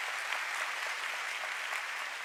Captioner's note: applause